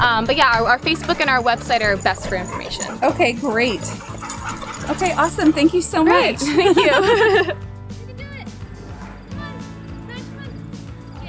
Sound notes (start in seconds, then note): 6.1 both laughing